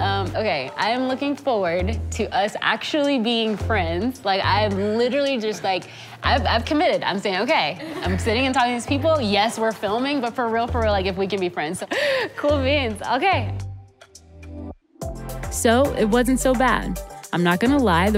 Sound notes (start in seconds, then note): 11.8 laughs